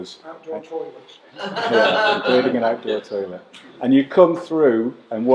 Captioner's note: laughter